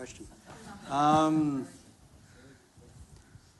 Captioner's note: laughter